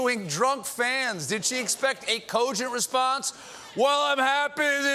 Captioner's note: as drunk guy